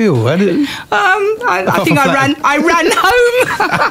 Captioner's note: laughter